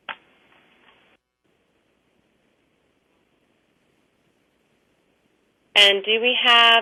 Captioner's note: pause